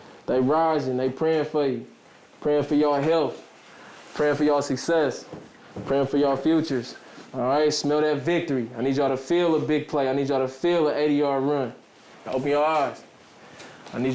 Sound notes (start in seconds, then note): none